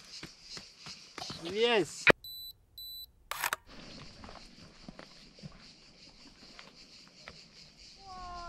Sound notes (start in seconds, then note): 3.3 camera beeping